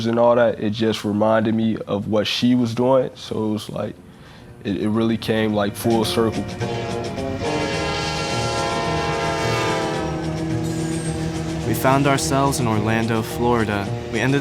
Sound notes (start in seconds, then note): 7.1 train horn blowing; 11.1 upbeat music